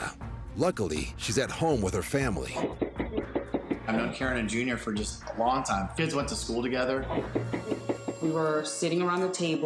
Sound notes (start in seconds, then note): 2.7 knocking on door; 7.2 knocking on door